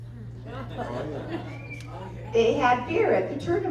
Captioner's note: laughter